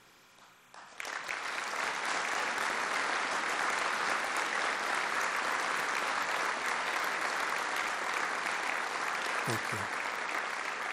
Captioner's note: applause